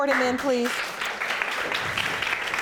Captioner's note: audience applauding